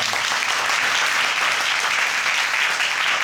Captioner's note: audience sympathizing and applauding